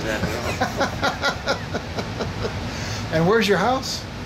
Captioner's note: laughs